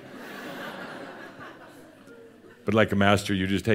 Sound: more laughter; more chuckles

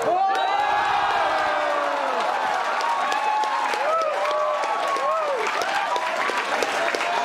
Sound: cheering, clapping

